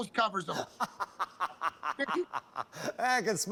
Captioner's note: laughter